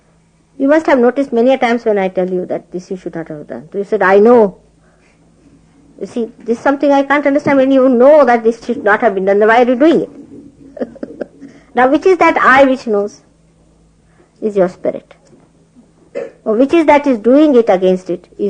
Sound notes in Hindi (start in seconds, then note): 10.2 laughing; 13.2 हँसते हुए